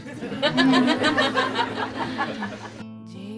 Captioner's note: laughter